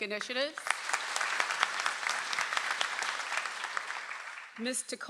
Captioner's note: audience applauds